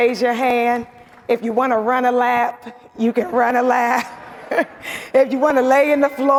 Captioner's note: laughs